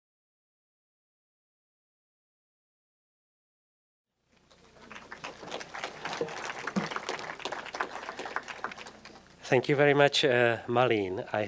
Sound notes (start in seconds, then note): 4.5 applause